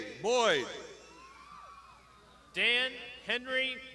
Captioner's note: crowd shouting